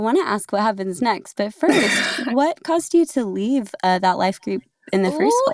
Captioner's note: laughs